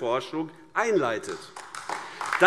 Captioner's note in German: Beifall AfD